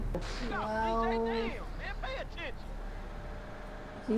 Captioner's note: game audio